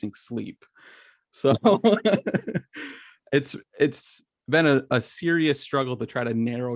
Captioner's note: laughs